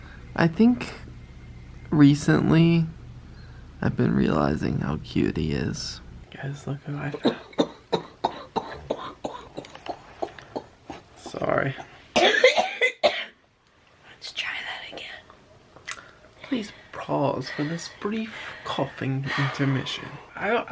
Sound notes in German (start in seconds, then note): 7.0 husten